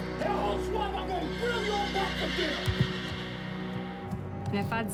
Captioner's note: horse neighing; Bobby yelling